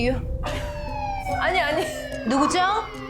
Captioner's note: siren sound